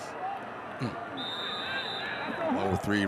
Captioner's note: referee blows whistle